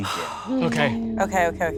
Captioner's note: sighing